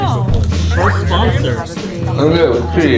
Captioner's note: gulp